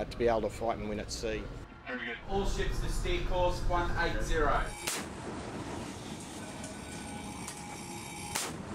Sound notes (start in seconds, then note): 4.8 explosions